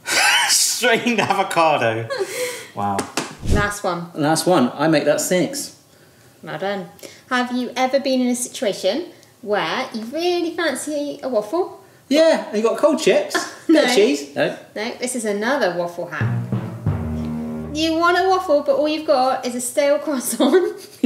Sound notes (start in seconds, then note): 0.2 laughs; 3.3 screen wipe whooshes; 16.2 dramatic music